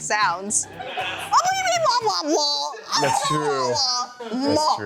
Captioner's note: makes silly noises